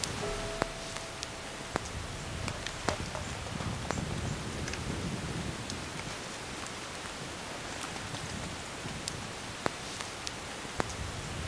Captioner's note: sound of water dripping from tree branches